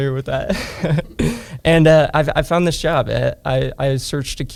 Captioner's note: laughs